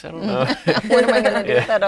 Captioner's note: laughing